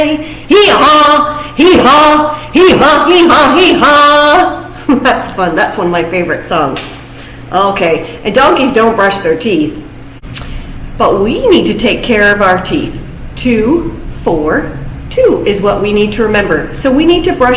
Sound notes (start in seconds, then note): 2.5 loud voice